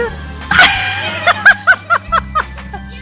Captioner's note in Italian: risata